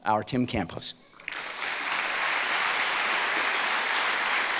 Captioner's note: applause